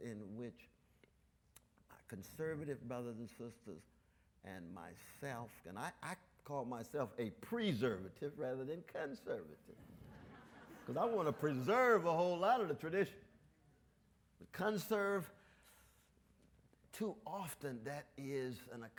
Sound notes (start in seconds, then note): 9.8 audience laughs